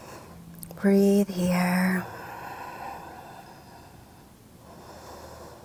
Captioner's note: inhales deeply; breathing deeply